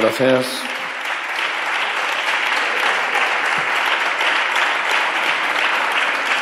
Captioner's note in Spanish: Aplausos